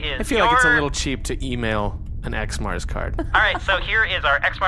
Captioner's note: Dar laughs